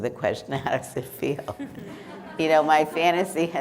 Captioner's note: members laughing